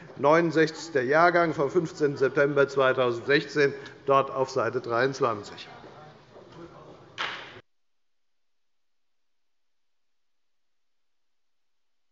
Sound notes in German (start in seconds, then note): 7.1 Beifall bei der FDP